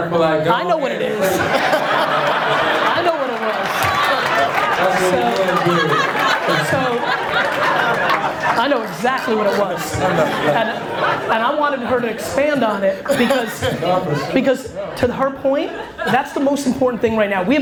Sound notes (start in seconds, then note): 2.2 audience laughs, applauds